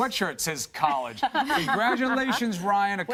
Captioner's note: laughter